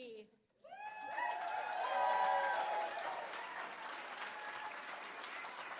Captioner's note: cheering; applause